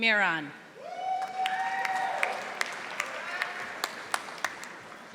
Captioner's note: audience applauding